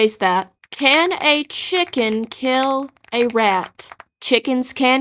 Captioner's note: distant Typing